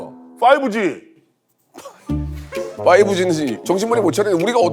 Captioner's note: too stunned to do anything but laugh